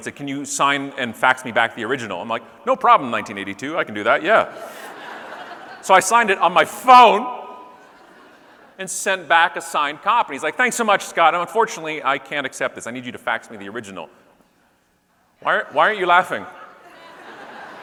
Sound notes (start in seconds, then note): 4.3 audience laughing